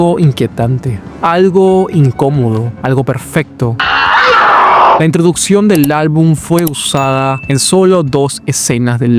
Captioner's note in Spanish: grito